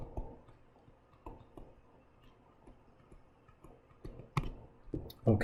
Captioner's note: writing Sounds